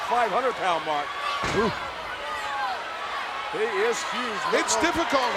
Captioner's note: applause